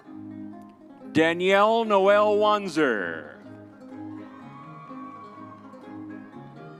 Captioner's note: crowd cheering